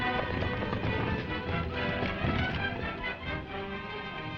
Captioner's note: hooves thudding